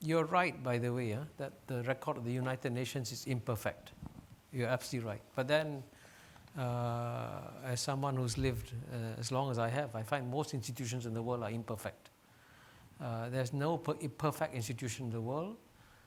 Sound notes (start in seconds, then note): none